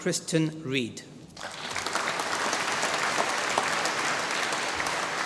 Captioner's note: applause